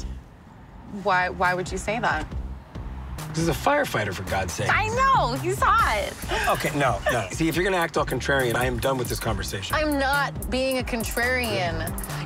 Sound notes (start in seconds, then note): 6.3 laughs